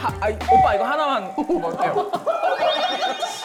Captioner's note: overflowing cuteness sound effect